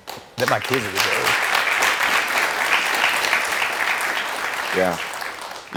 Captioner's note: audience clapping